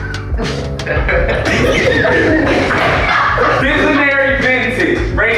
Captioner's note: scattered laughter